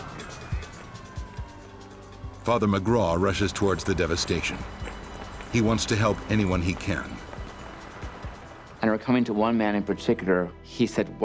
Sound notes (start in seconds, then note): 0.5 alarms sounding; 0.5 radios chattering